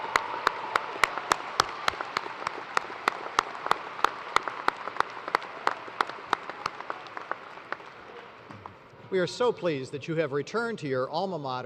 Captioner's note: cheers and applause